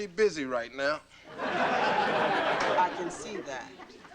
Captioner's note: audience laughing